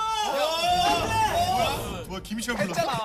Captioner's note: scream; murmuring